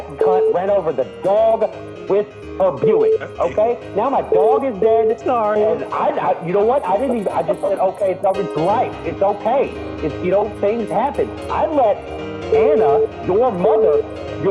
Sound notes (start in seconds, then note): 8.0 giggles